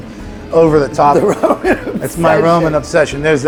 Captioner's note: laughs